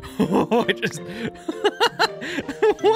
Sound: laughs

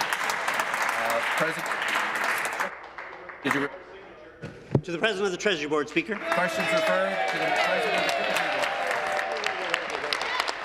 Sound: applause

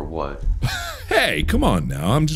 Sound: wheeze

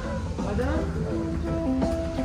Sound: Arabic

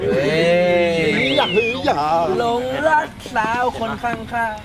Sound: cheering; mocking

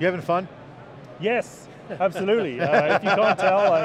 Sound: laughs

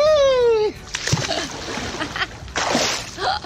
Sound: splash; laughing

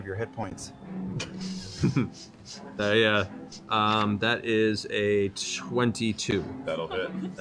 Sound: chuckles

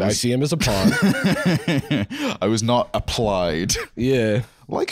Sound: laughing

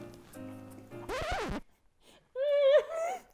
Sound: record screeches

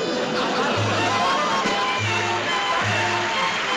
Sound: laughter

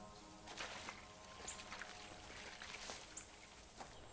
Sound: footsteps

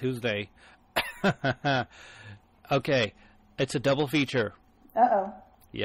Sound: DJ laughs

